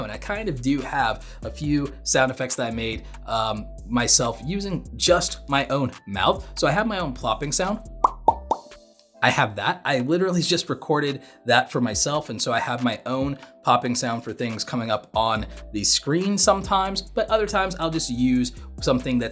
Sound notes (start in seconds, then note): 8.0 soft popping